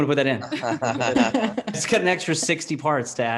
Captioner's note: laughing